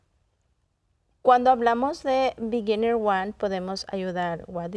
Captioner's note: in Spanish